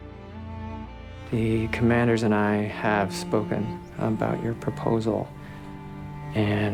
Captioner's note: voiceover